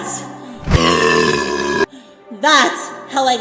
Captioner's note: buuuurrrrrpp